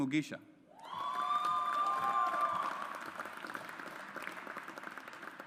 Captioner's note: audience applauds